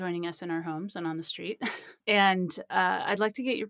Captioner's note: laughs